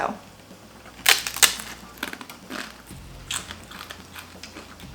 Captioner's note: tortilla crunches